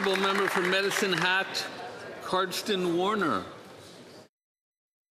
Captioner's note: some Applause